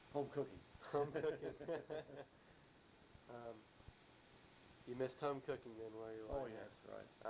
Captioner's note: both laugh